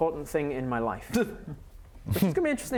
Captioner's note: scoff